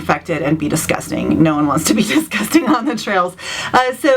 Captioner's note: laughing